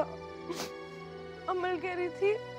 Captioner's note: Bano sniffs